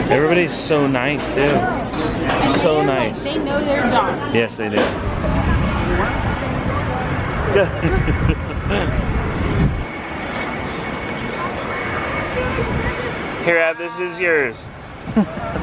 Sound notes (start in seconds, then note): 7.5 laughing; 15.0 laughing